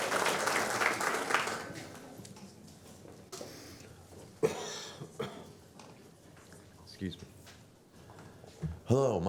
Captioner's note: applause